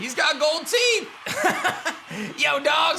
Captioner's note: laughs